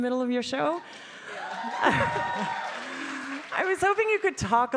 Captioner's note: audience applauding